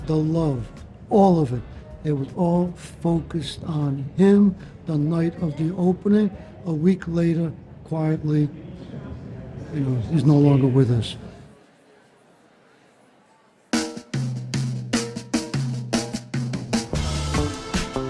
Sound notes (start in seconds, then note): 11.8 crowd chattering indistinctly